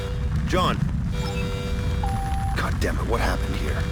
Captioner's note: computer sounds